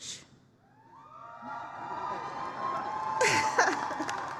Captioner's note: applause, cheering